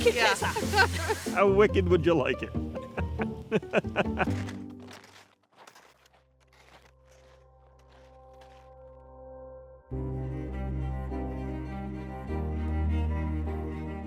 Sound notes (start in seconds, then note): 2.9 laughing; 3.4 footsteps crunching; 9.8 dramatic string music